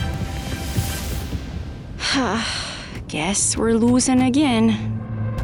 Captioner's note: sighs